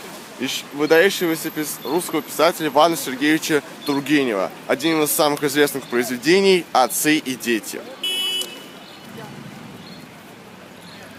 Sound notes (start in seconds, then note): 8.0 signal of car